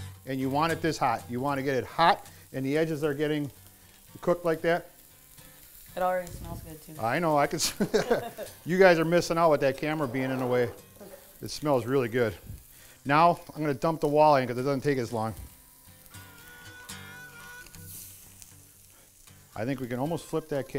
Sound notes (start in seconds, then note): 7.6 laughing